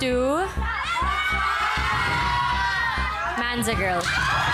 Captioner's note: audience cheering